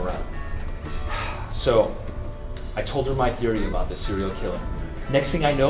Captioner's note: sighs